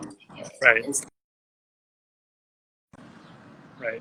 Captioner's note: audio muted